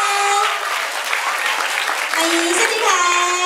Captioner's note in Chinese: 尖叫+掌聲